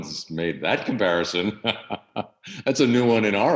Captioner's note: laughs